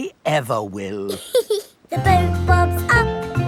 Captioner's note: giggles